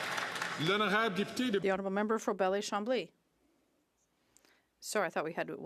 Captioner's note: some Applause